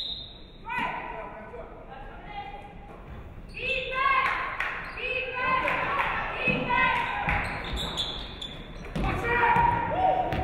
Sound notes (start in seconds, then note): 3.7 audience cheering